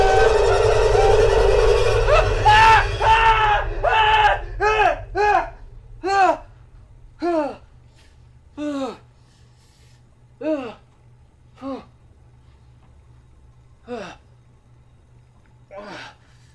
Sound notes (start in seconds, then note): 2.1 horrified screaming; 8.7 shuddering breaths